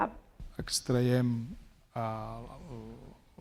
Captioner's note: speaking spanish